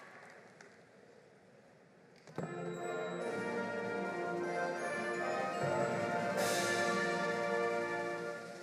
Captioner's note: applause